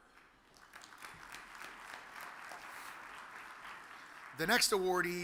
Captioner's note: audience applauds